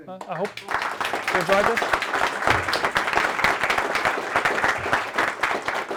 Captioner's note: audience applauding